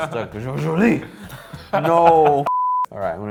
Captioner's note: laughs